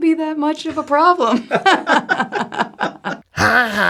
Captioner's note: both Laugh together